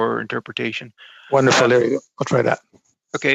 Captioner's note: speaking French